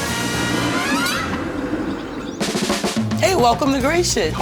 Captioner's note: train rattles